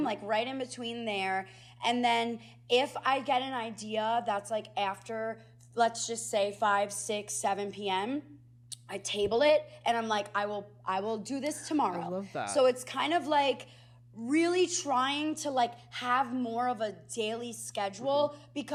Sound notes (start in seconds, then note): none